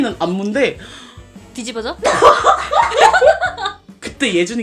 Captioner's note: bursting into laughter